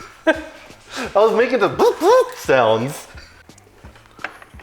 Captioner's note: impact Gun Noises